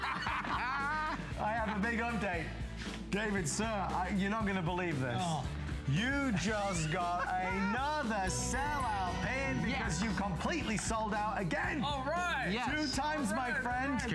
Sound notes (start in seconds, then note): 0.0 laughter